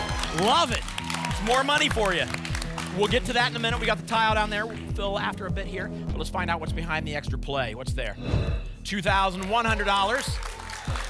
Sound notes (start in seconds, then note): 0.0 applause and cheering; 8.1 whoosh